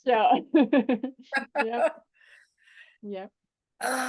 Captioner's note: both laughing